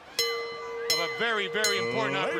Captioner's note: bell ringing